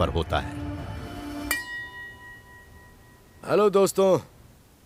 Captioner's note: wine glass resonates